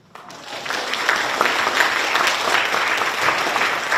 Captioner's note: people applauding